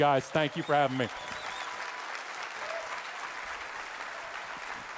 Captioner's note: audience applauding